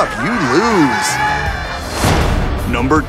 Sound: cheers

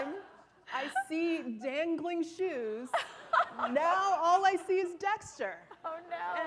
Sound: laughter; laughter

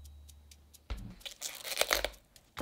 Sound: leaves ripping

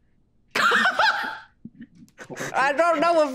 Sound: Erika laughing

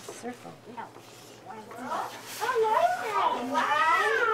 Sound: background chatter

